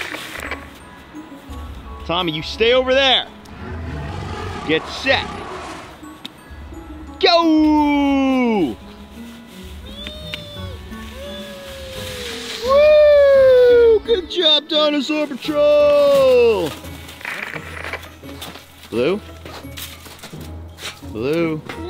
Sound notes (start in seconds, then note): 9.4 children cheer; 17.3 static crackles; 19.3 footsteps crunch in snow